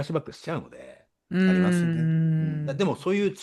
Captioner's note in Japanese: 咳払い